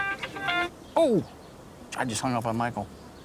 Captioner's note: phone ringing